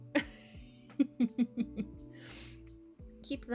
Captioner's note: laughing